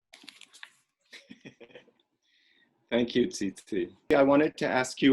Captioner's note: laughs